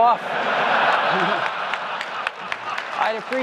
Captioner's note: audience laughs